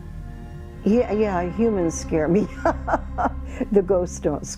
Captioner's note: laughing